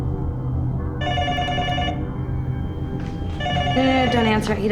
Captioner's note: phone ringing